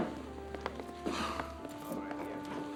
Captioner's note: sighing in exhaustion